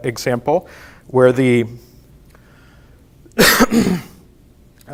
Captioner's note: coughs